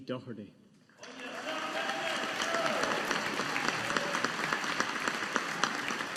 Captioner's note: audience applauding